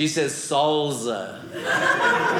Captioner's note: audience laughing